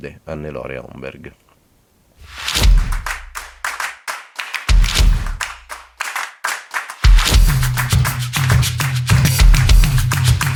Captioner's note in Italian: Applauso